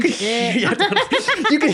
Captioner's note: laughing